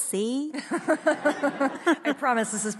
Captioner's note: audience laughs